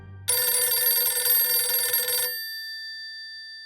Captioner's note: phone rings